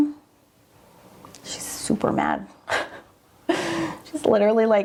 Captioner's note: laughs